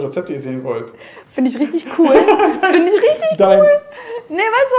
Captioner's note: laughing